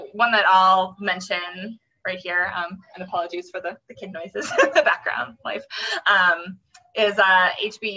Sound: laughing

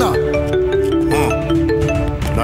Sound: mobile ringing

